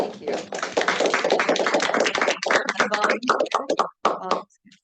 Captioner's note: audience applauding